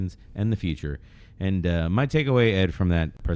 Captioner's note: uh